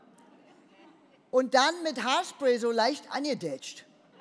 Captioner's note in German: none